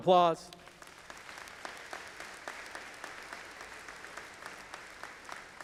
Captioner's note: audience applauding